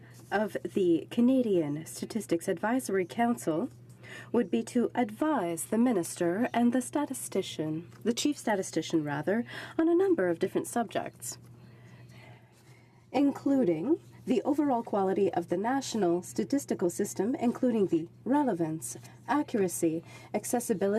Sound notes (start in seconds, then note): 5.7 speaking in french